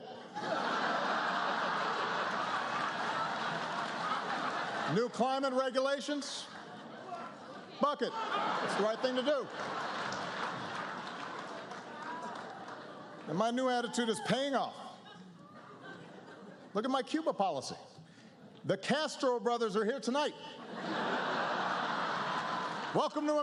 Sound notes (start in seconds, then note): 0.2 laughter, applause; 11.3 laughter, applause; 20.5 laughter